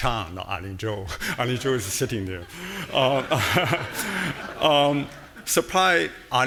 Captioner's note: audience laughing